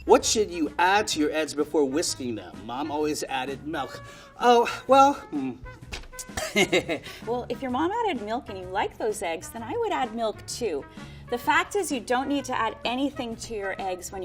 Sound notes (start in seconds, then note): 6.3 laughing